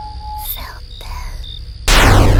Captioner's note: silent whisper